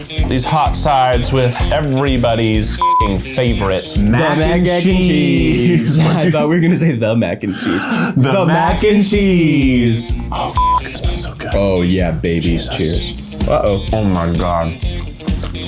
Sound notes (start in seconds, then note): 0.0 upbeat country rock music; 2.8 beep; 6.1 laughs; 10.5 beep